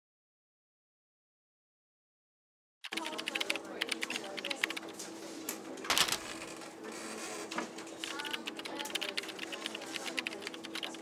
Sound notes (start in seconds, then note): 2.8 typing; 5.6 paper shuffling. typing